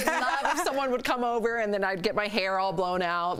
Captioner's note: laughter